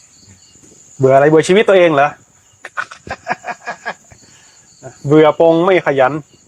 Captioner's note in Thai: เสียงหัวเราะ